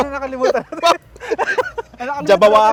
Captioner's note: laughs